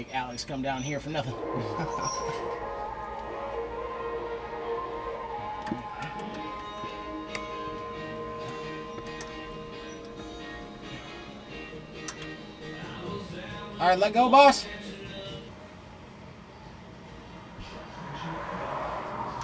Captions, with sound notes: I didn't want to make Alex come down here for nothing. (laughs) (upbeat music) All right, let go boss.